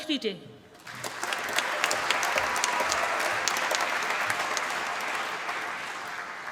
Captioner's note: applause